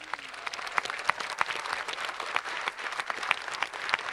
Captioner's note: audience applauding